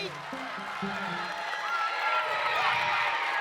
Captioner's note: cheers and applause